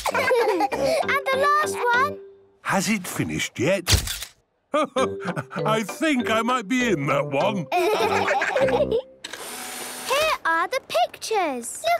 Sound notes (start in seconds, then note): 0.0 all laughing; 4.1 camera clicks; 9.2 whirring